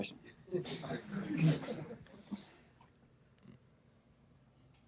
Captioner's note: audience laughs